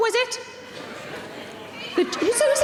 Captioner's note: audience yelling responses